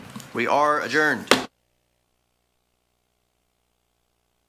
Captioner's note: gavel thuds